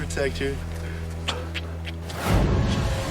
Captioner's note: smooches